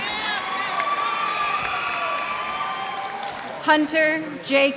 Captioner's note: cheers and applause